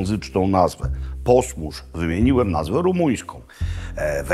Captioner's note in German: rumänisch